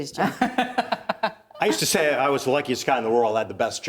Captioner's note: laughing